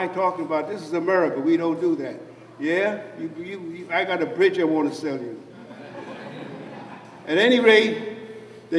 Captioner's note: laughter